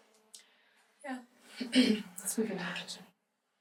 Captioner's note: clears throat